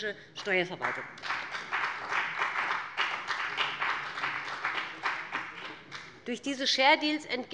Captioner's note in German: Beifall bei dem BÜNDNIS 90/DIE GRÜNEN und der CDU